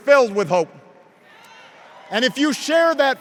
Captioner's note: hoots and cheers